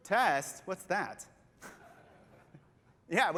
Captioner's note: laughter